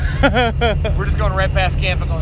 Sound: laughs

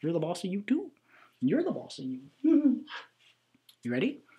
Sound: giggles

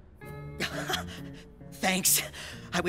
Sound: laughs

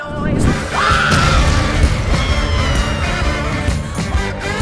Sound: screams

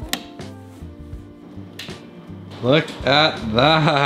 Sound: light switch clicks

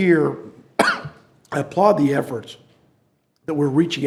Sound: coughs

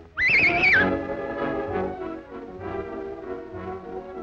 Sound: whistle blows

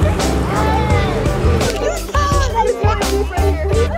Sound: jet ski engine; fun music

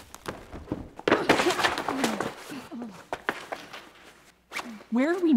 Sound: crashing noises

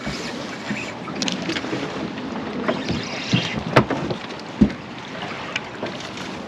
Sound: reel cranking; water flowing

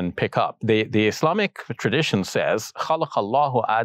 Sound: speaks Arabic

